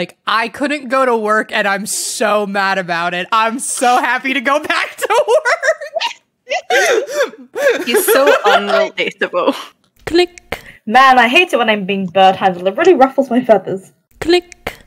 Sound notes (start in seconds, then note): 5.1 laughing; 7.6 everyone laughing; 9.8 click; 14.4 click